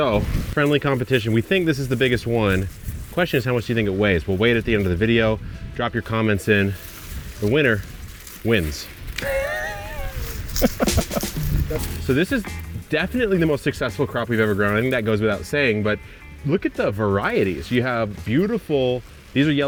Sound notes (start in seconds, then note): 9.2 laughing